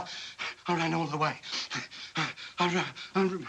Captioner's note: panting